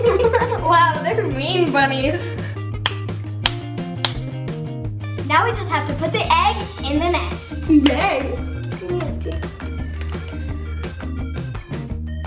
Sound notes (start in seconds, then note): 0.0 laughing; 3.4 smacking; 9.1 upbeat music